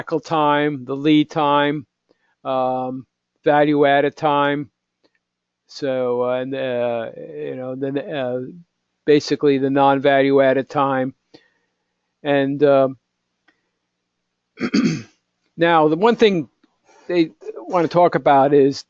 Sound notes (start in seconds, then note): 12.0 cough